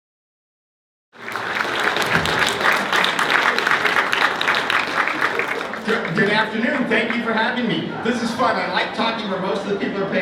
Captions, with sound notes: (applause) - Good afternoon, thank you for having me. This is fun, I like talking where most of the people are